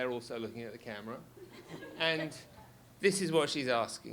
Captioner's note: audience laughs